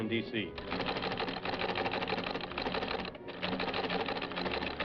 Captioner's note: teletype clacking